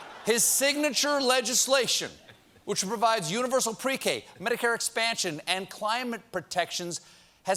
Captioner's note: laughter